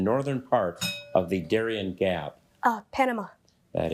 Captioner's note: bell dings